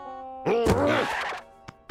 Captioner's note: grunts